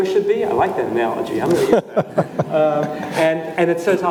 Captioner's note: laughs